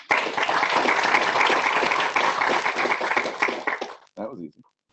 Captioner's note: clapping